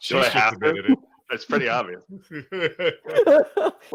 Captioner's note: laughing